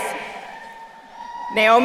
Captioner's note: crowd cheering